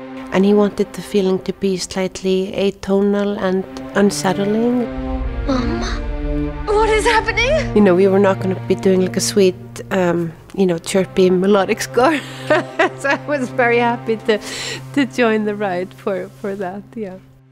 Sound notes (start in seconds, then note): 12.1 laughs